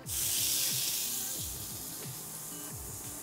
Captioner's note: pan sizzling